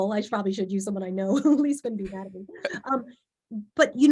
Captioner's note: laughs